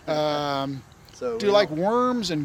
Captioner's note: laughing